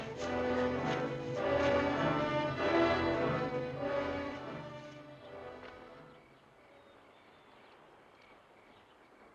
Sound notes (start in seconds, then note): 4.6 birds chirping